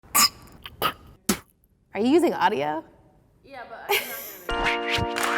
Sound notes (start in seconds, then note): 0.0 spitting